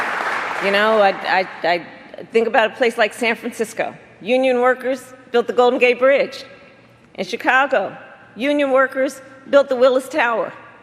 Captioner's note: applause